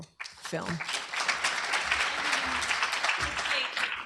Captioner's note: applause